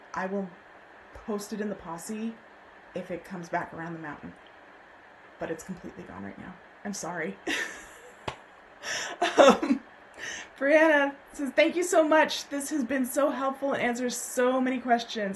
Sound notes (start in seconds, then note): 9.0 laughs